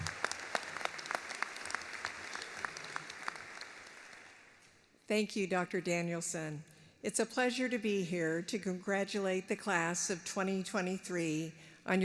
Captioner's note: applause